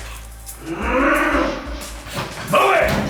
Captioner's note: growls